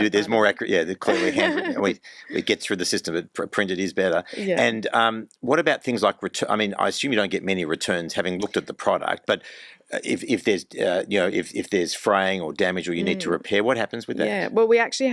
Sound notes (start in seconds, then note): 1.0 laughs